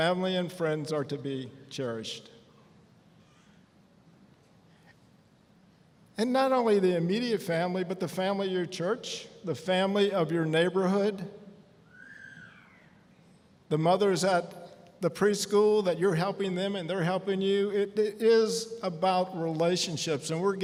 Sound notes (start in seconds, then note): none